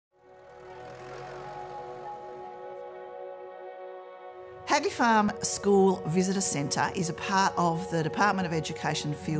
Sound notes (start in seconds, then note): 0.1 gentle music; 0.2 tractor revving